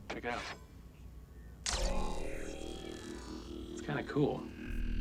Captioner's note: hypershield whirs